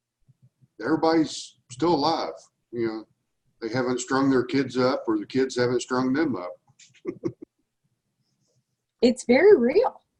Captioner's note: chuckle